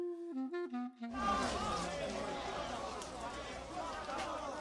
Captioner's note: people shouting